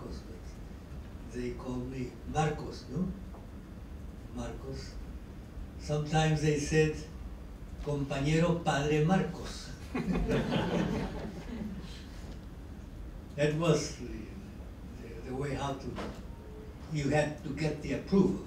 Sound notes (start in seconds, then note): 9.8 laughter